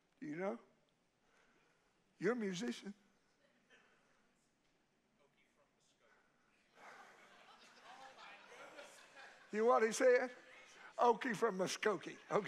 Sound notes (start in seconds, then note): 8.4 congregation laughs